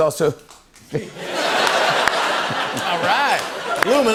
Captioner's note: laughter; applauds